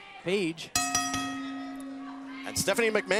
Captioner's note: bell ringing